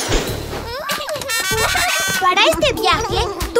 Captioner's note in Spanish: Sonido de bocinas y risas